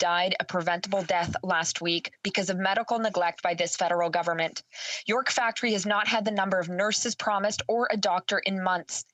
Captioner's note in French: voix de l'interprète